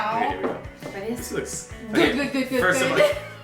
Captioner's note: laughing